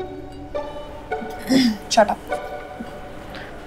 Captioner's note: Clears throat